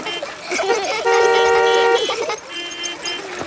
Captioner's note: beeping; laughter